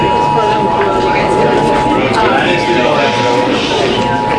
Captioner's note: audience murmuring